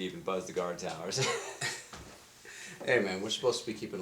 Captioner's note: laughing